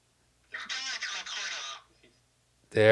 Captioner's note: computer voice speaking